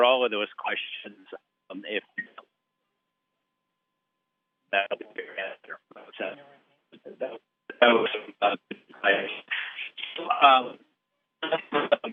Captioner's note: audio cuts out